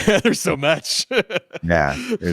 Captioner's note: laughs